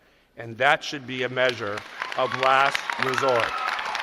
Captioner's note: cheers and applause